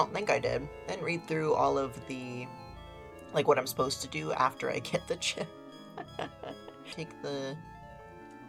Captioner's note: laughs